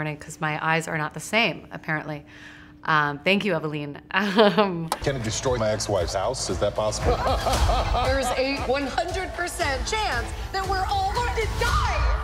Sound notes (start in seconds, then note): 4.2 chuckles; 6.7 news anchors laugh